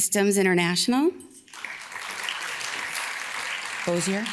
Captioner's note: audience claps